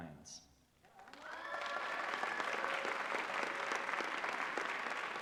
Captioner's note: applause